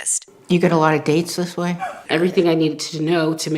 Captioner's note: laughs